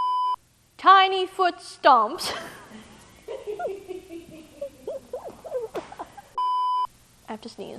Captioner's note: laughs